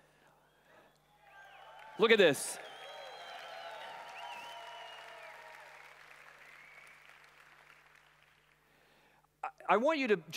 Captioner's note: applause